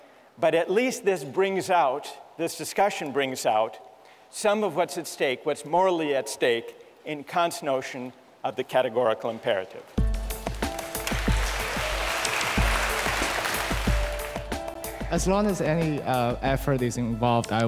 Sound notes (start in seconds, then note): 12.1 applause